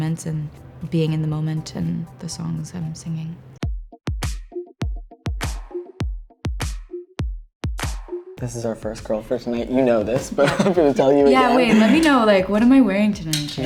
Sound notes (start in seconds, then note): 5.0 upbeat music; 9.9 laughs